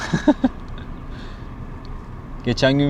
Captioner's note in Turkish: kahkaha